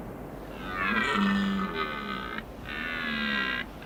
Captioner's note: stag bellows